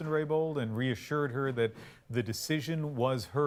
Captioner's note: speaking French